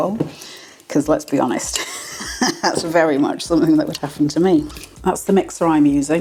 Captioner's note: laugh